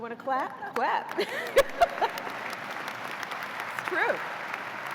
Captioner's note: applause